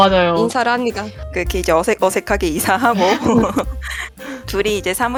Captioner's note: laugh